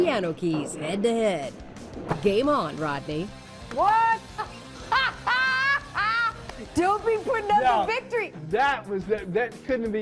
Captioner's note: laughter